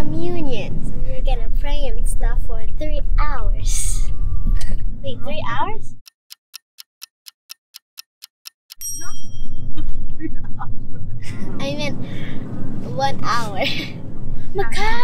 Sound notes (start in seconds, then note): 6.0 SFX - Ticking Clock; 8.7 SFX - Ding; 9.8 laughing